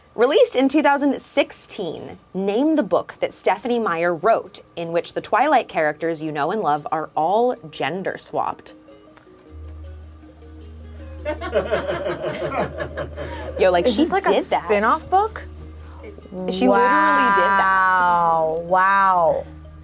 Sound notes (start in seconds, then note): 11.2 group laughs